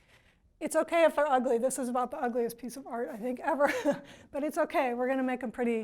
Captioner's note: laughs